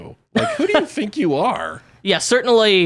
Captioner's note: laughs